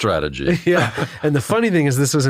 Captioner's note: laugh